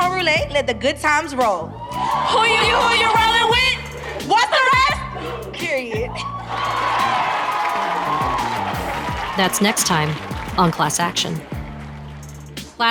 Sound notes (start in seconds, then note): 3.5 crowd cheers and applause